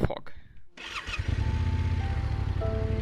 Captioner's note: bike engine revving; bright music